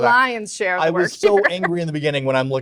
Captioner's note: laughs